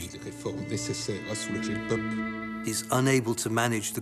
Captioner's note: Louis XVI speaking in French